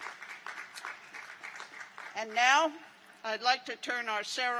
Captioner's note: applause